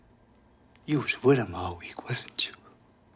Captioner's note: none